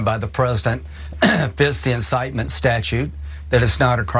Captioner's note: cough